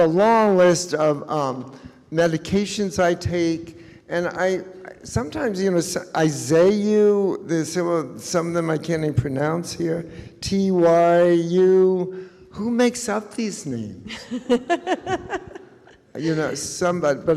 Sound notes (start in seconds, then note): 14.0 laughs